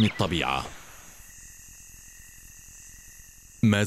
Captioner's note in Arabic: طنين حشرات